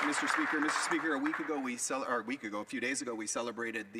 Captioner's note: speaking French